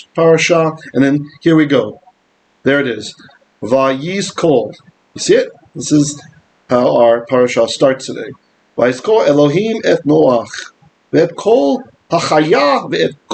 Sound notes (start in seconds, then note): 5.0 Hebrew; 8.9 Hebrew